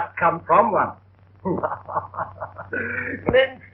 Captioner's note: laughing